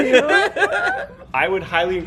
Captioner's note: laughter